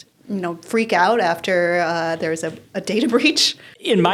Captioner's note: laughs